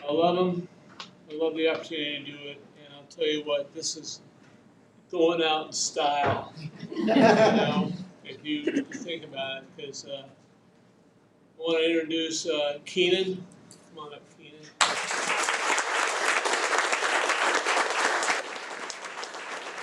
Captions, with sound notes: I love them, I love the opportunity to do it, and I'll tell you what, this is going out in style if you think about it, 'cause I want to introduce Keenan. Come on up, Keenan. (audience applauding)